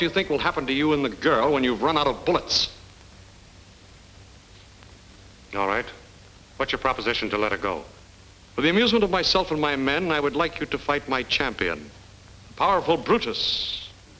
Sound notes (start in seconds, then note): none